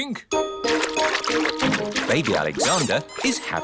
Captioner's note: splashing